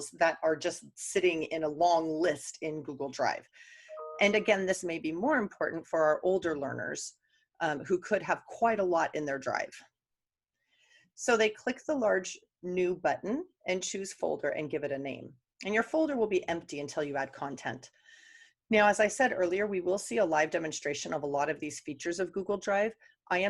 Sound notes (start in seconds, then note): 3.9 muted chime